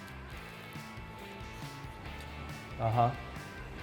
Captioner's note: lightly crunching